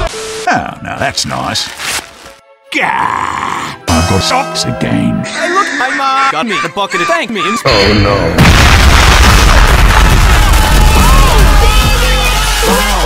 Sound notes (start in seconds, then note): 5.3 random Guy Laughing; 8.3 boooooooommmmmm